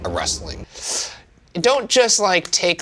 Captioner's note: sucking air through teeth